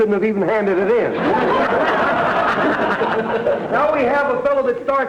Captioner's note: audience laughter